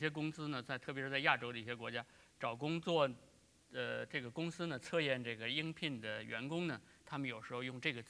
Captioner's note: speaking in Chinese